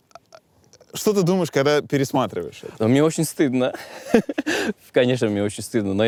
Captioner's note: laughs